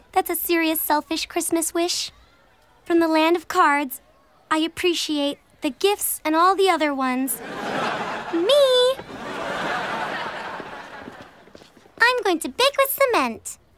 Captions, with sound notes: That's a serious selfish Christmas wish. From the land of cards, I appreciate the gifts and all the other ones. Me! [laughing] I'm going to bake with cement.